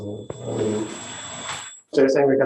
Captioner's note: ringing